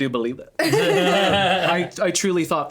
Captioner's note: all laughing